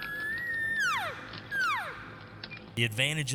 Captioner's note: elk calling